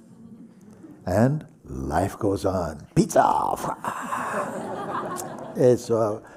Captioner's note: laughter